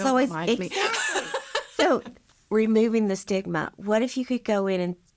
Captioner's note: laughing